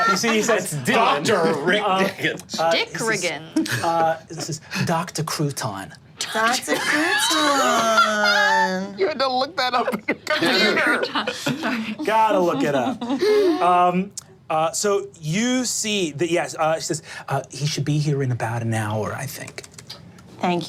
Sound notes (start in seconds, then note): 0.0 group laughing; 6.6 laughing